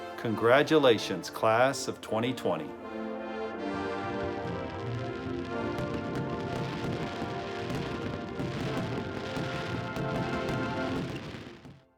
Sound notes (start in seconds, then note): 3.0 soft music; 4.2 fireworks crackling